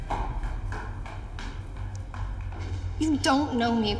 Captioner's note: footsteps thudding